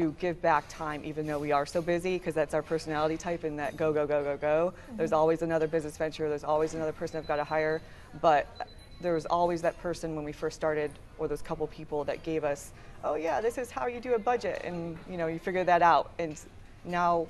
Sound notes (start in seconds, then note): none